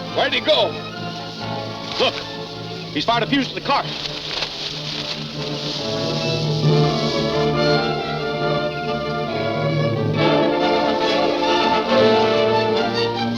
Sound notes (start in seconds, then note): 5.7 fire burns; 8.2 dramatic music continues